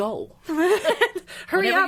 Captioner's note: laughing